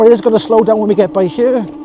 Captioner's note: laughing